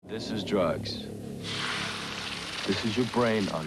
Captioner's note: egg sizzles